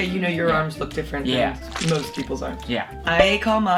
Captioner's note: slimy liquid gushing